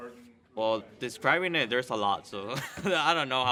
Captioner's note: laughs